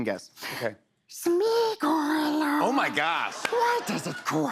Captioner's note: Imitating Gollum